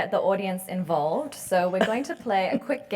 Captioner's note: laugh